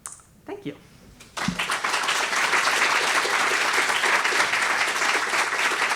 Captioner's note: applause